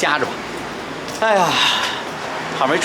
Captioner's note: sigh